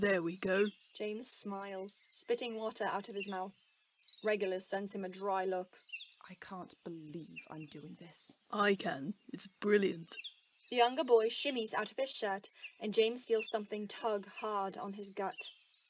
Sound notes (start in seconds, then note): none